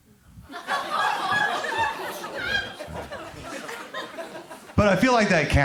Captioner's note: crowd laughs; crowd groans